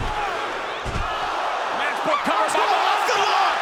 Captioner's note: crowd exclaims